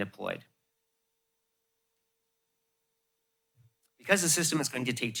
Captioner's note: pause